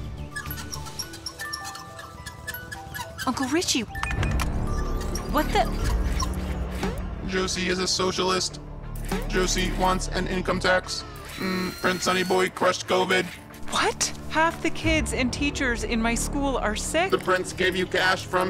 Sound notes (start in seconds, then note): 0.1 chair wheels squeaking; 0.4 music box playing; 4.1 device button noises; 6.4 dramatic gong; 6.4 dramatic music